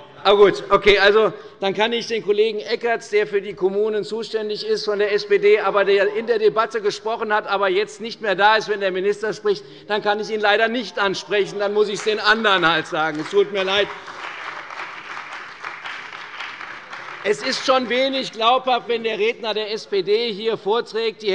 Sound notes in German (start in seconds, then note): 14.6 Beifall bei der CDU und dem BÜNDNIS 90/DIE GRÜNEN